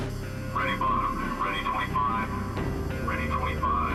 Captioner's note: tense music; man On Radio